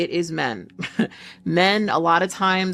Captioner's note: chuckling